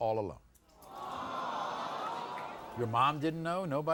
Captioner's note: audience awws